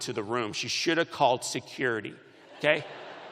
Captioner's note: laughter